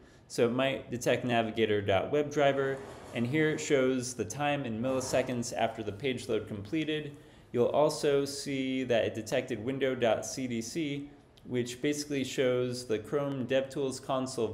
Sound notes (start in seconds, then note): none